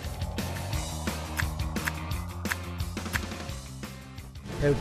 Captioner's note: clicking sound when taking pictures